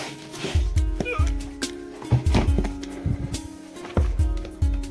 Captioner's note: grunts as places book down